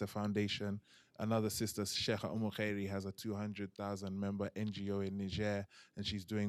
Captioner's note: non-english